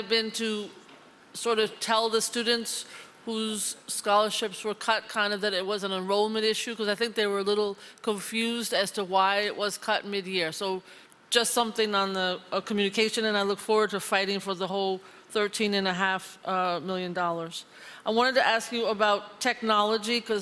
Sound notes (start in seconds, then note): none